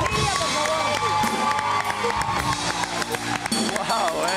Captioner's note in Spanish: Aplausos